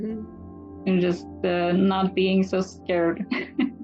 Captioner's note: laughs